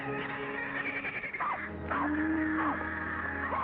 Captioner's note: pig squeals; cattle moo; dog barks; pig squeals